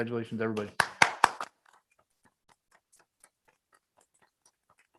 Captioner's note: members applaud